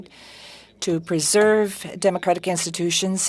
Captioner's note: speaking French